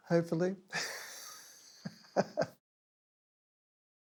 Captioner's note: chuckles